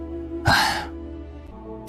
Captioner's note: sigh